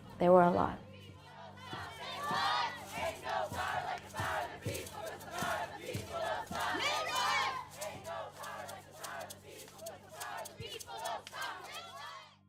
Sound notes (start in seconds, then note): 3.4 crowd